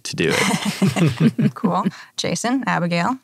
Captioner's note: all laugh